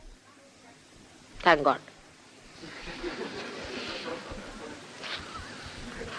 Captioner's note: laughter